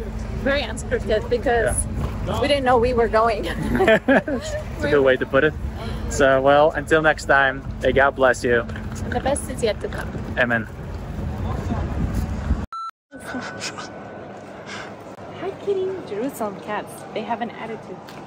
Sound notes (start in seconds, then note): 3.5 both chuckle; 12.6 camera beeps